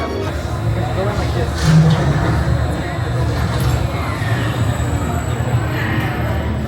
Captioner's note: epic music; people chatter; futuristic sound effects